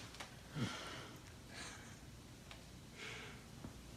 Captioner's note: chuckling